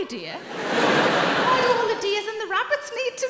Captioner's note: audience laughing